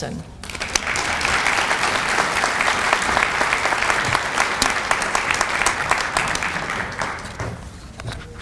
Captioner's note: applause